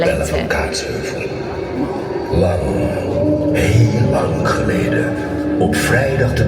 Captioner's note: announcer speaking in foreign language